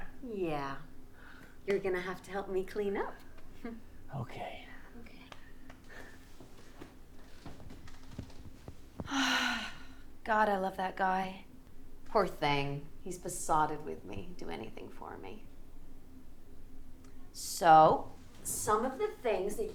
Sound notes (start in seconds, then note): 9.0 Maisie sighs